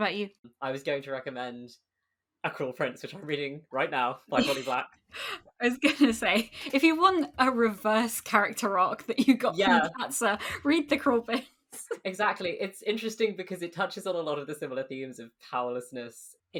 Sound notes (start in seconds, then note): 4.4 laughing